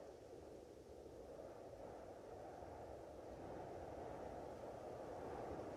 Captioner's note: wind holwing